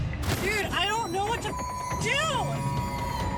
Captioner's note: beeps